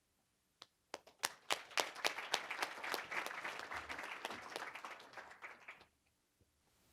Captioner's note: applause